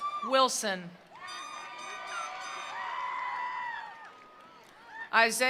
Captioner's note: attendees cheering; attendees applauding